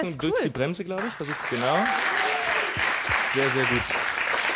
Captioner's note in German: Applaus